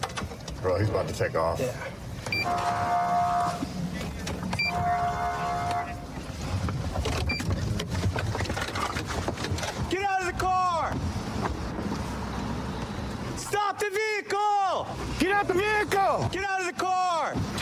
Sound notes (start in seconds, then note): 2.4 horn blaring